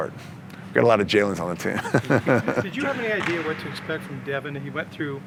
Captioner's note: laughs